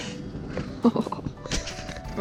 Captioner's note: laughing